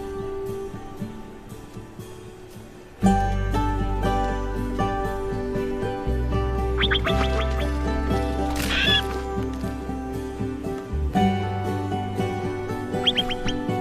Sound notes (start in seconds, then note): 6.6 the calls of pika